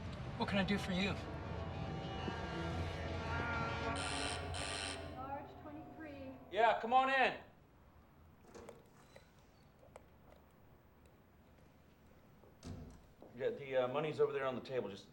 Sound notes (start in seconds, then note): 2.4 doorbell buzzing